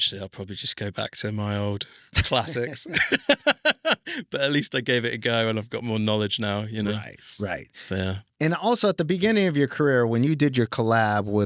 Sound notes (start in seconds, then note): 2.2 laughs